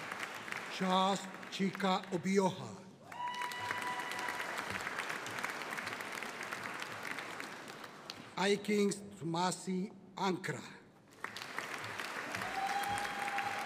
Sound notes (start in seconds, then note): 3.0 audience cheering; 11.1 audience applauding